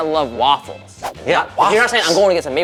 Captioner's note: graphic whooshing